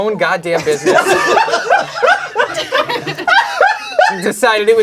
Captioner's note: crowd laughing